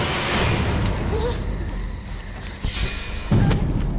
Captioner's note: whimpers